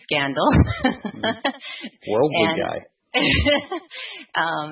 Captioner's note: laughing